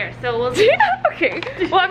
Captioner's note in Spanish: se ríe